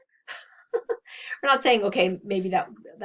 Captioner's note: laughs